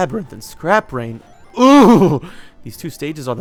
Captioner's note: groan